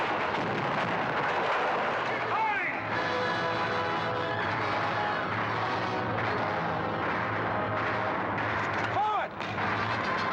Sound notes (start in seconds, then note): 0.0 cannons firing; 0.3 wall crashing in; 2.9 dramatic orchestral music; 3.1 sounds of battle